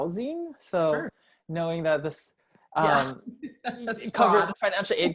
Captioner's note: laugh